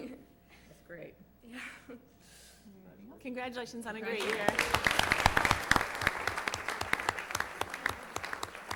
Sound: applause

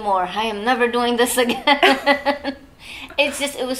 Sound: laughs

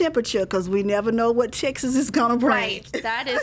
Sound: laughing

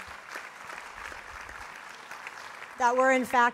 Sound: applause

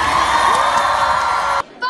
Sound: Alt-right people cheering

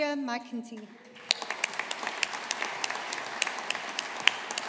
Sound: audience applauding

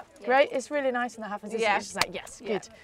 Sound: claps

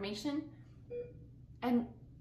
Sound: beeping

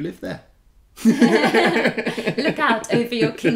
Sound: laughing

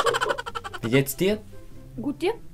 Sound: German

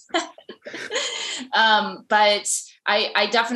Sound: all laughs

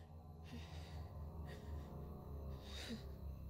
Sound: soft crying

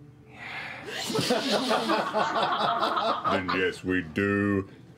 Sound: laughter

